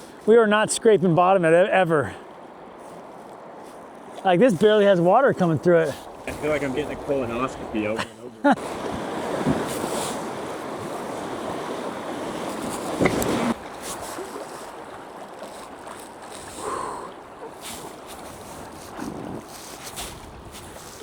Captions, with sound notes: We were not scraping bottom at it ever. Like, this barely has water coming through it. I feel like I'm getting a cool enough to be over and over. [water splashing] [water splashing] [exhales] [water splashing]